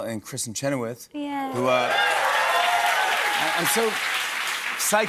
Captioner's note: cheers and applause